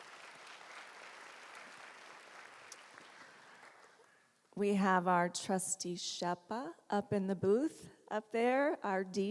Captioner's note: applause